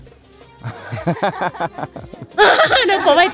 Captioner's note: laugh